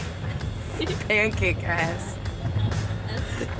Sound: laughing

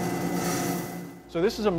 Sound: sound Machine Turning

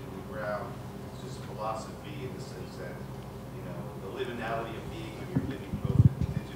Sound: speaks faintly

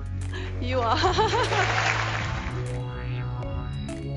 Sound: applause

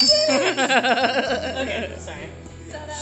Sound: laughs

